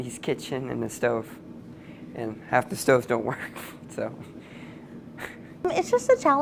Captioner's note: chuckles